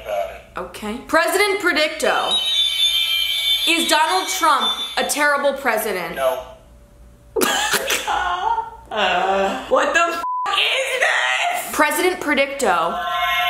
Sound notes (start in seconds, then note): 2.4 whirring; 7.4 laughing; 10.2 beep